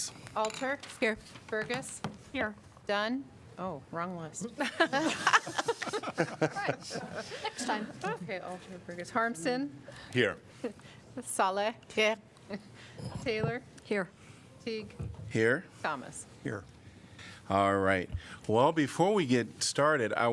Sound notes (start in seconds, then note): 4.5 laughter